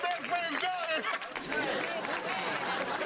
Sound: crowd mumbles

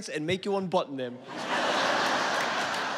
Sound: laughter

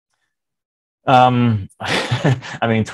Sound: chuckling

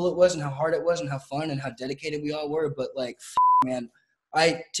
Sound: beep

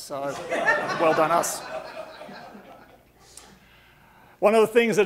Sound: audience laughing

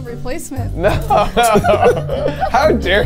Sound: laughing

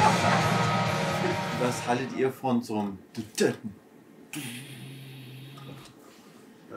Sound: imitating drum sound

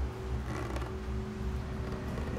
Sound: creaky footstep; creaky footsteps; ominous music

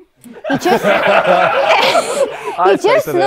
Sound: people laughing

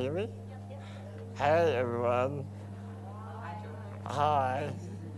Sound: crowd

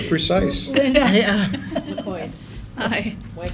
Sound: laughter

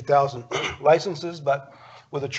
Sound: clears throat

